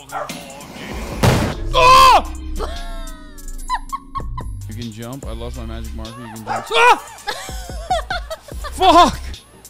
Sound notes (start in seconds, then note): 0.7 explosion; 3.6 laughing; 6.6 laughing